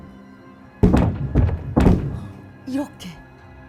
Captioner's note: thud, thud, thud